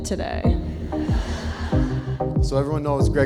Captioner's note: guests laugh